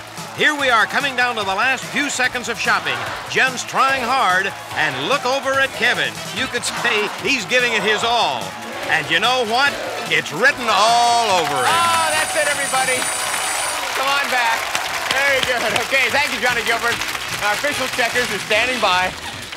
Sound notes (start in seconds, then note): 11.4 bell ringing